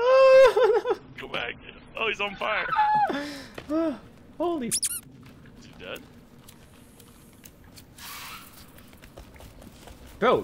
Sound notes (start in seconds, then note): 4.7 squeaks